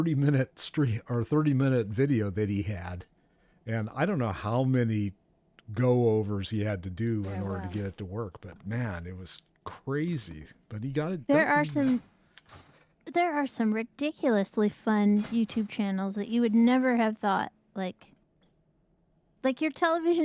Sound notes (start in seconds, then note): none